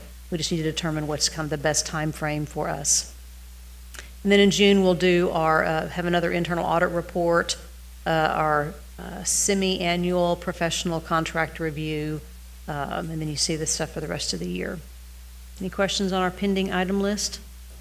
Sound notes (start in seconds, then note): none